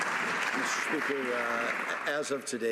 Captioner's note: some Applause